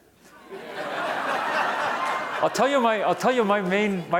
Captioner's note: audience laughing